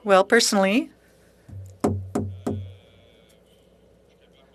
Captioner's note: speaking French